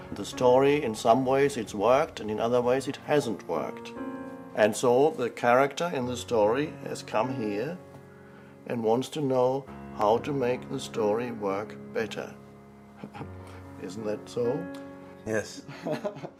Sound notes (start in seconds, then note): 13.0 laughs; 15.6 laughs, laughs